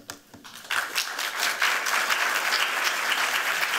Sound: applause

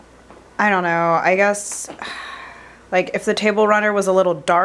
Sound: sighs

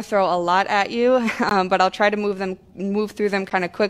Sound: laughter

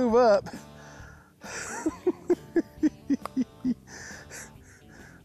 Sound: laughs

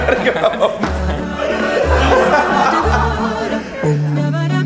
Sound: laughs; all laughing

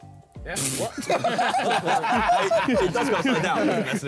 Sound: all laughing

